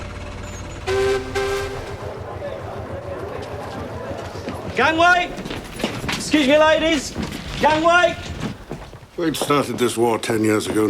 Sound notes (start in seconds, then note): 0.4 whistle blowing